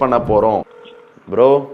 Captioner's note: phone ringing